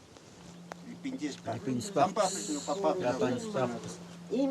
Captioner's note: Spanish spoken audio